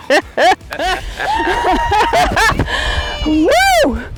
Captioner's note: cheering